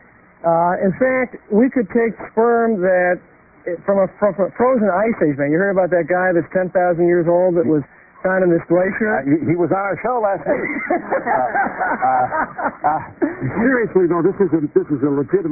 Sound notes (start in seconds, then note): 10.4 laughter